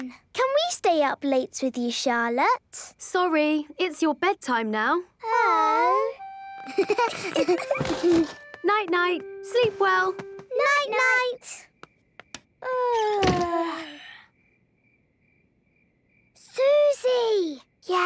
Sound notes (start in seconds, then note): 12.4 both yawning; 12.4 light clicks